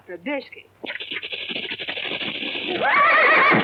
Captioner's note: rattling